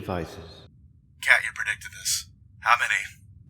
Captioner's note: radio voice